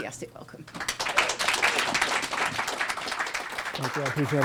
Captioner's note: applause